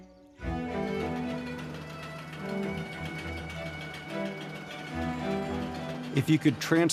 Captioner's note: harvester engine whirs